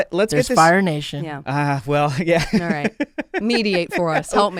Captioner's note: laughs